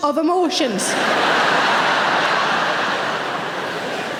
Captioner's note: audience laughing